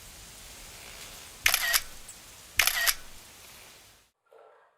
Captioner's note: shutter sounds